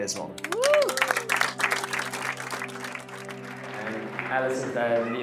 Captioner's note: all applauding